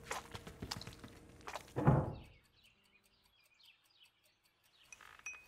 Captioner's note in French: gazouillis d'oiseaux